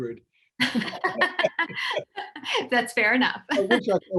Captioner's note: laughing